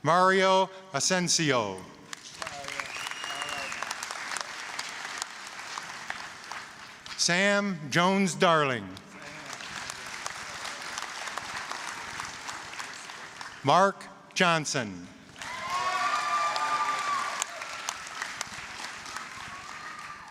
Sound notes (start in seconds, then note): 2.1 applause; 11.6 applause; 15.3 applause, cheering